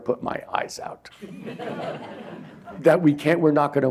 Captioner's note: laughter